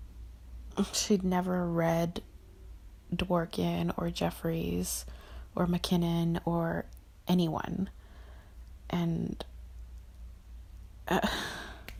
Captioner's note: sighs